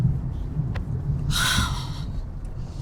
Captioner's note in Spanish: exhalación